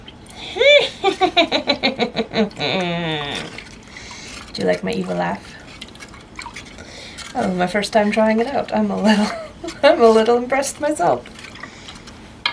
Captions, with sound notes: *witch cackle* Do you like my evil laugh? That was my first time trying it out. I'm a little *laughs* I'm a little impressed, myself!